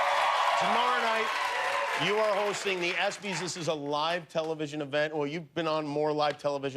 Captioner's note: cheers and applause